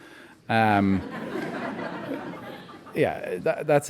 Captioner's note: audience laughing